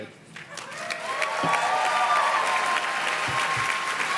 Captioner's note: audience claps